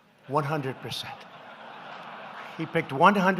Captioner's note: laughter